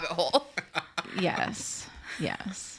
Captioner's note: laugh